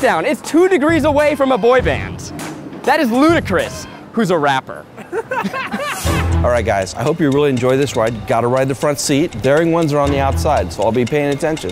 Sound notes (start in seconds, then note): 4.8 Keith laughs